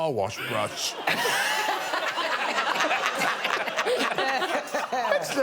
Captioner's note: audience laughing